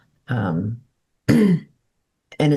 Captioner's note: clears throat